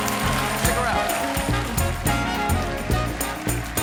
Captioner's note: cheers and applause